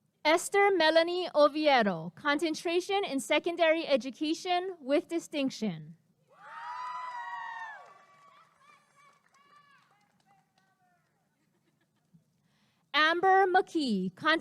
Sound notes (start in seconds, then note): 6.4 applause and cheering